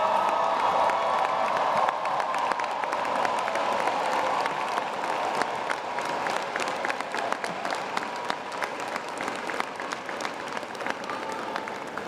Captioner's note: applause